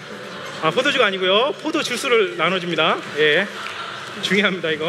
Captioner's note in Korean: 웃음